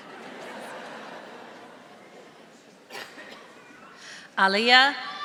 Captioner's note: audience laughing softly